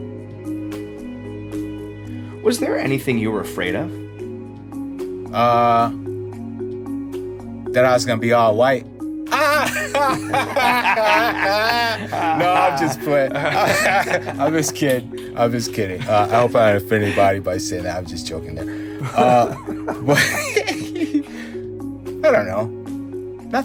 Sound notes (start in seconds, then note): 0.2 lighthearted music; 9.3 laugh; 13.9 laughs; 19.0 laughs